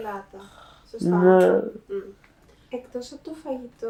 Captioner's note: achmet – artificial male voice